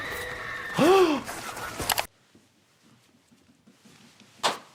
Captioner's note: victim screaming